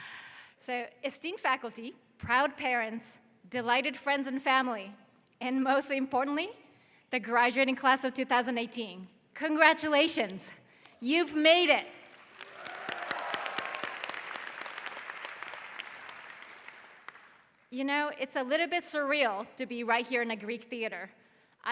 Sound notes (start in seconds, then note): 12.0 audience applause